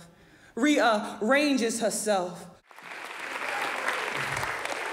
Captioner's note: audience applauds